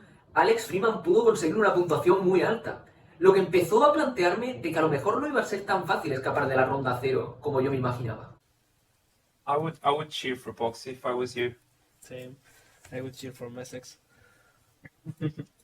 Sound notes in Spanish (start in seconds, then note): 8.6 hablando